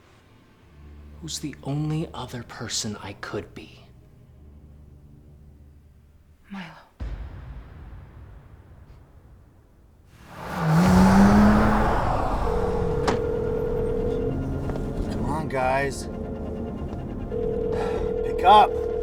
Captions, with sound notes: Who's the only other person I could be? - Milo. [car driving fast] [phone ringing] Come on, guys. Pick up!